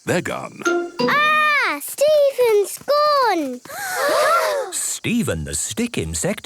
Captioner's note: gasps